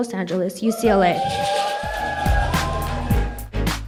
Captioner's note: cheering